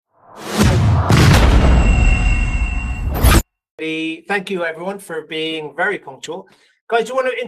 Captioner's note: explosion